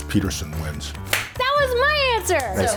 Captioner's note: claps